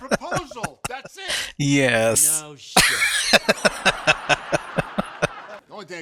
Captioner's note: laughing; laughing